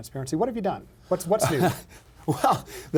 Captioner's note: laughing